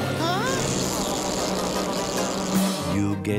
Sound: zapping

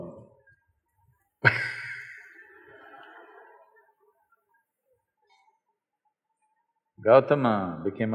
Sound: Sadhguru Laughs

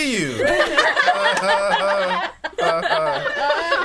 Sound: all laughing

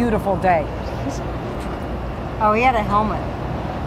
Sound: whispers

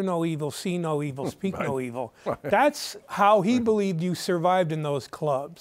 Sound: laughs

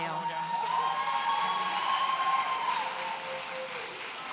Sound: audience cheering

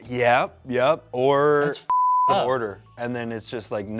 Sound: beep

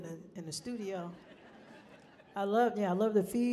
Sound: people laughing

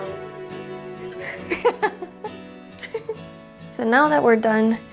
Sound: laughing

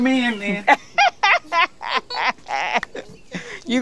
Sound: laughs

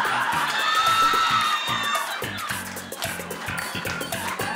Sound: audience cheering

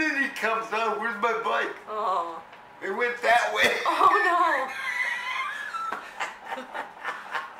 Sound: laughs

